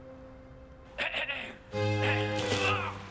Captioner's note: clears throat